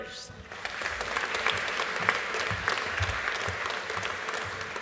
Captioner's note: audience applauding